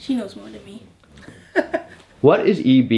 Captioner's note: chuckles